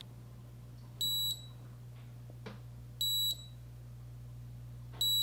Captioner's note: device beeping